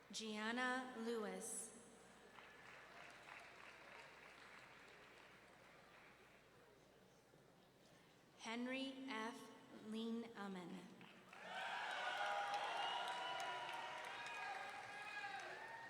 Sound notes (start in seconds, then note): 2.3 audience clapping; 11.3 audience cheering